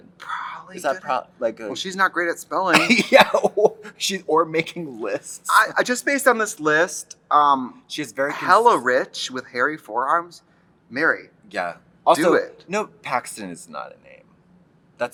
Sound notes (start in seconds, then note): 2.7 laughs